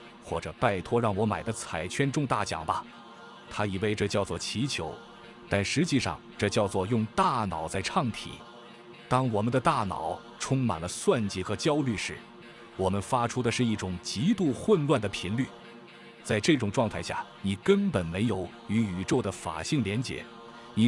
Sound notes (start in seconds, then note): 7.7 chanting